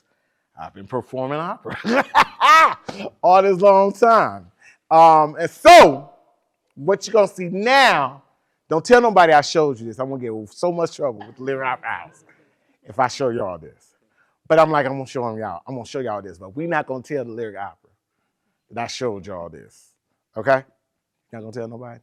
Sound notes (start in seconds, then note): 1.7 laughs